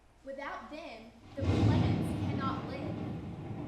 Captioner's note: thunder rumbles